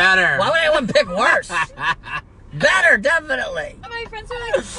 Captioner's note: laughing